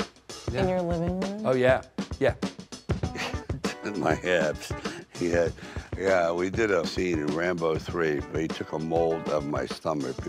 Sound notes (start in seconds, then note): 3.1 Sylvester chuckles